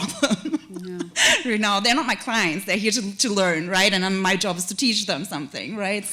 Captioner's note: chuckle